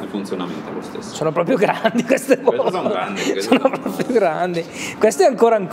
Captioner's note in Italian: ridendo